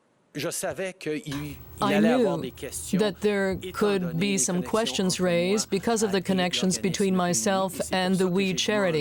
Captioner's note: speaking French